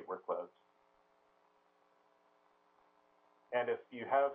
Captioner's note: pause